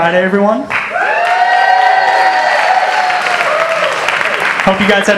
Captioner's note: applause